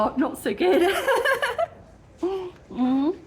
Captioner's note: laughing